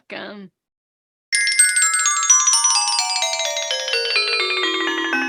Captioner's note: light chime